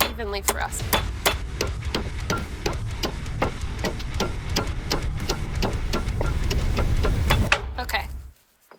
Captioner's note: pounding